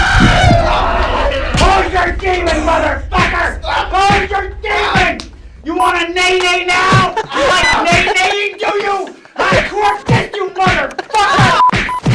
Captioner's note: daemon speak